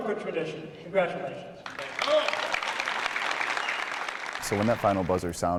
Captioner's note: applause